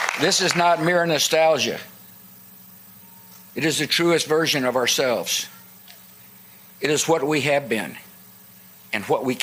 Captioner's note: applause